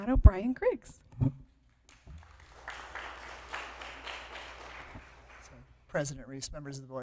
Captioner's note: applause